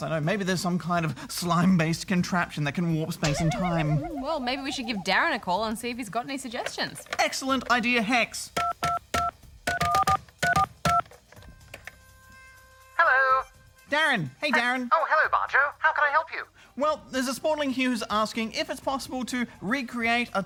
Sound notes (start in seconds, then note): 8.6 buttons beep